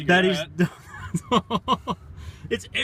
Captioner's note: laughs